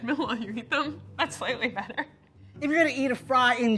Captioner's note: laughs